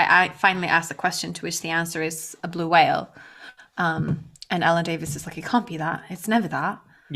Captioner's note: english accent